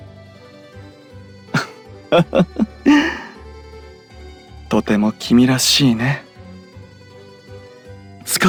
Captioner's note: laugh